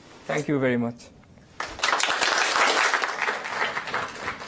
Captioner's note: applause